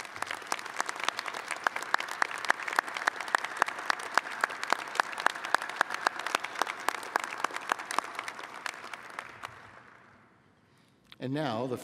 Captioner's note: applause